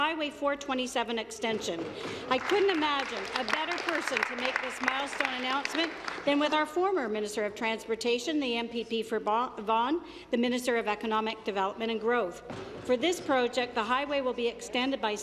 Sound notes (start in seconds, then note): 4.8 applause